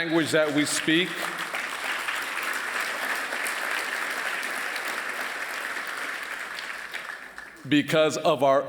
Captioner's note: applause